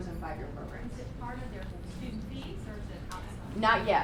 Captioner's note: voiceover